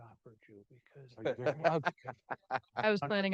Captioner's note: panelists laughing